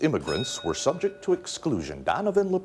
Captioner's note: bell dinging